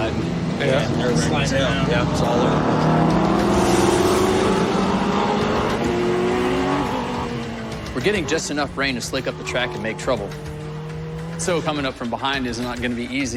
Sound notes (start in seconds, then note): 2.9 tires screech; 4.8 engines rumbling